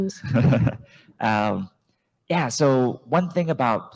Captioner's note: chuckles